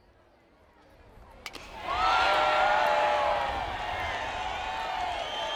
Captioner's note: cheers